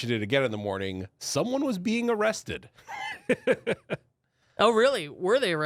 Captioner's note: laughs